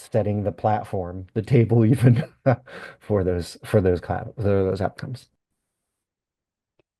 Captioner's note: laughs